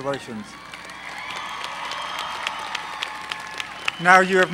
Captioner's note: applause